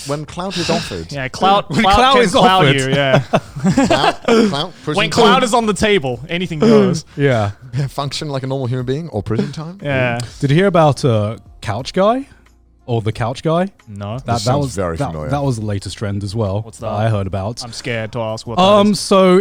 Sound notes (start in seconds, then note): 3.7 laughing